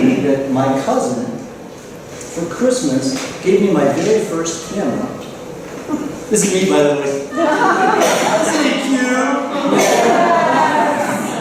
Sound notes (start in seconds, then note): 7.3 laughter